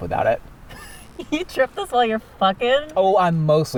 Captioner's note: laughs